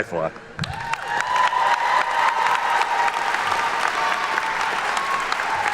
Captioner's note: attendees cheer and clap